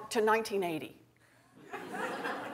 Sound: laughter

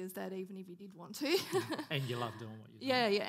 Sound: laughing

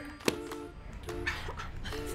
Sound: hand thumping wood; laughing

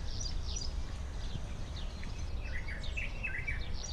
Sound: birds chirp

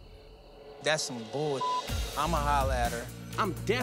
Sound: beep

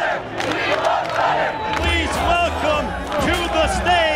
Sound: Chanting "We love Conor."

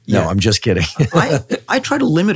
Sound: Andrew chuckles

